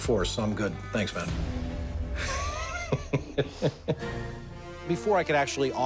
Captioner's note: laughs